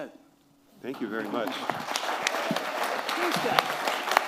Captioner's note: applause